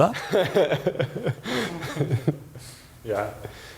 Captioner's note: laugh